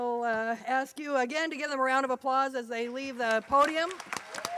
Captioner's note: applause